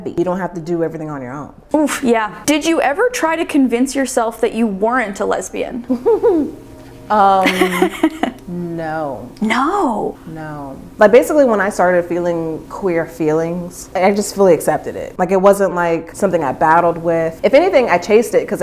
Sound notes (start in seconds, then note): 5.8 giggling; 7.4 laughing